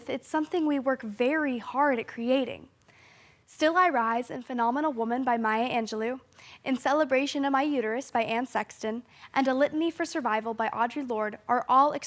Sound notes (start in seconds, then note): 2.8 sharp inhale